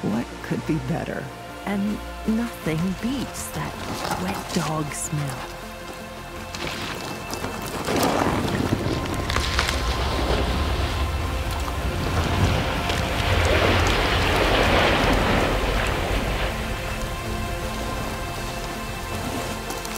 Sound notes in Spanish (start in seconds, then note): 7.9 llantas de bicicleta crujiendo sobre tierra; 13.5 salpicaduras de agua